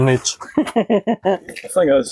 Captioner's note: laughs